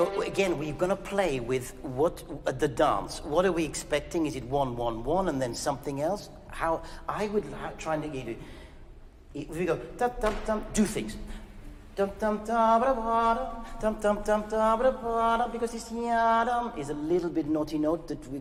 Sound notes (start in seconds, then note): 10.8 humming